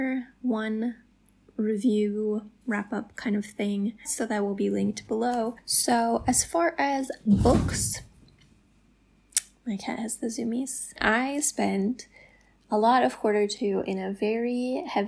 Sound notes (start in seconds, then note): 7.2 thump